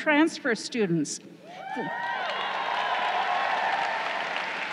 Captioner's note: crowd cheering